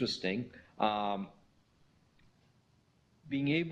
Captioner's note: pause